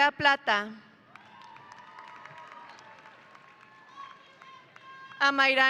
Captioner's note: audience applauding